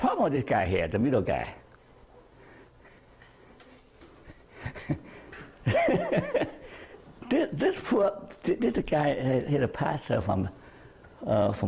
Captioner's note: chuckles